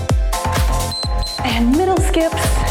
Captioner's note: timer beeps